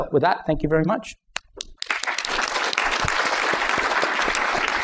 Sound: applause

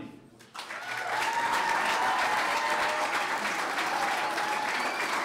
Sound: clapping

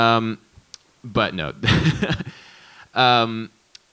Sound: laughs

